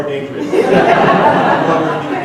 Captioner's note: laughing